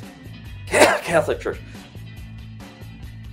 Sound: coughs

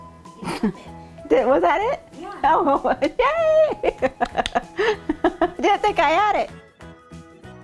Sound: laugh snort; laughing

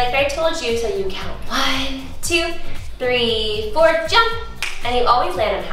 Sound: clicks fingers

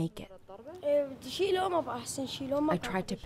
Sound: non-english speech

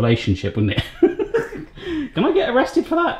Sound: laughing

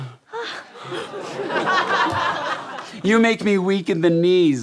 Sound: gasps

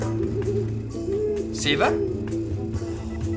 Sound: owl hooting

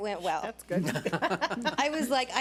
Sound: board laughs

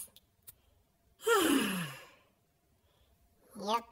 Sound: big sigh

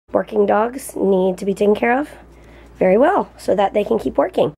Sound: none

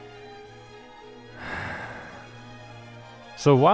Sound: sigh

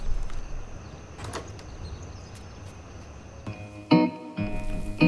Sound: door squeaking; soothing upbeat music

